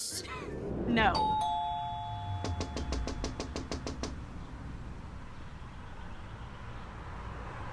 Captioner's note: doorbell rings; Bree knocking